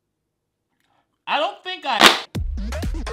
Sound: snaps fan; upbeat music

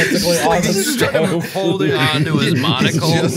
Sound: gales of laughter

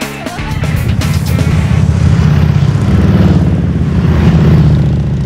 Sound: motorcycle engines roaring

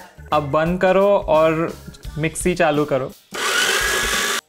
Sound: speaking in Hindi; mixer whirring

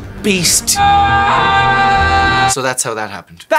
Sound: screaming

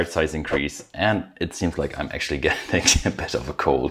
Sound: chuckling

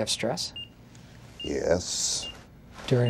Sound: sternly

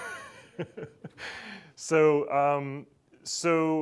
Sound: laughs

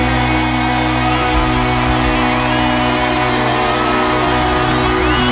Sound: audience cheering

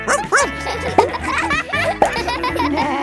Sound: barks

